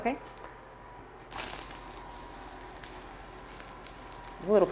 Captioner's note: butter sizzling